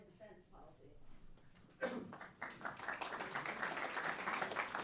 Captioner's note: applause